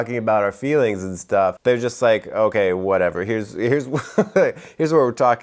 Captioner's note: laughs